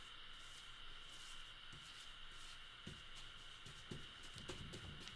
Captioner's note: brush swooshing